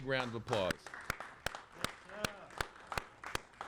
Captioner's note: applauding